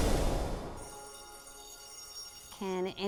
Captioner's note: air swooshes; bell ringing